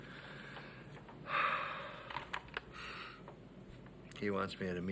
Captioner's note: Joe sighs